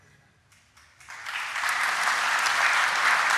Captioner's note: applause